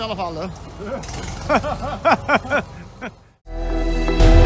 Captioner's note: chuckles